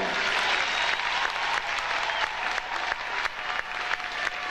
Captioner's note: audience applauding